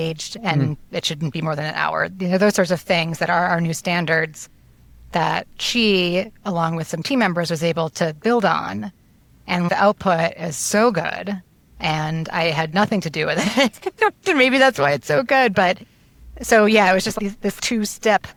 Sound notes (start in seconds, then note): 13.4 laughs